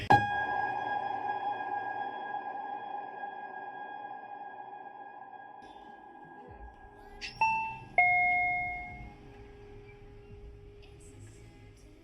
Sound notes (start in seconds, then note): 0.3 unsettling music; 7.1 door alarm beeping